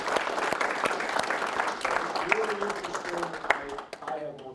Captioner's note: applause